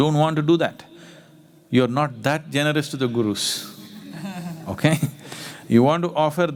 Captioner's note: laughter